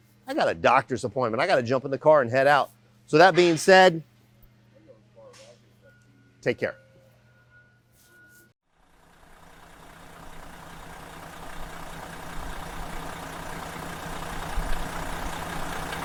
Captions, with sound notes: I got a doctor's appointment. I got to jump in the car and head out. So, that being said, take care. (engine revving)